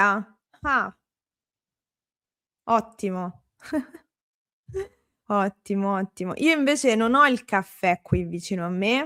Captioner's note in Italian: risate